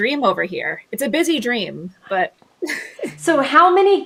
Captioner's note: laughs